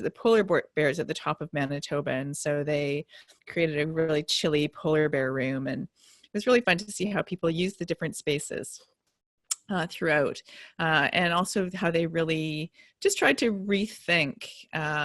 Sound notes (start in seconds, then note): none